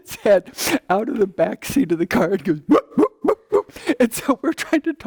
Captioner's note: barking